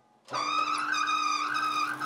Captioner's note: loud squeaking